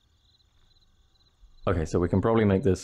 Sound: crickets

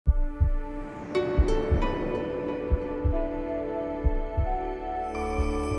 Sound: soft music; heart beating

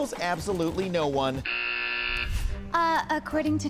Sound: buzzer

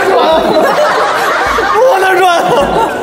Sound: laugh Out Loud

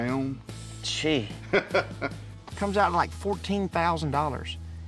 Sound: chuckling

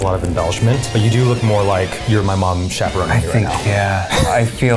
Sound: grunting

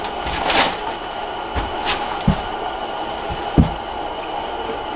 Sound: footsteps thumping

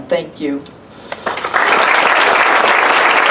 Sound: applause

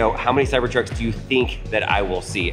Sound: none

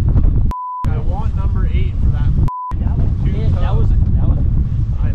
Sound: beep

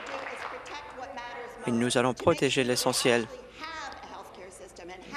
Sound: applause

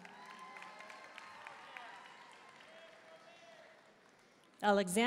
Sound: audience cheering and applauding

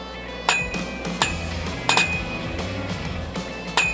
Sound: upbeat country music; clanking

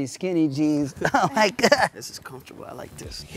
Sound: laughs

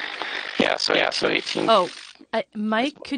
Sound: static hisses

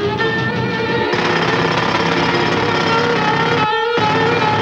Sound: drilling

